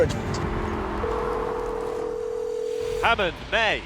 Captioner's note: phone rings